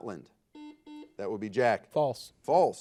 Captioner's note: buzzer beeping